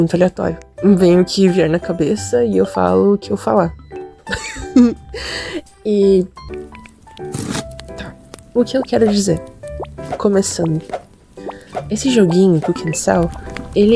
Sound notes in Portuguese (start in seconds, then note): 4.3 risos